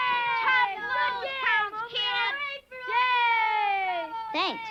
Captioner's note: kids cheering Oblio